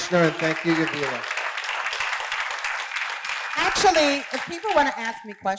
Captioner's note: applause